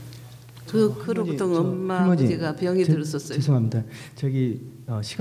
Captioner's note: speaking foreign language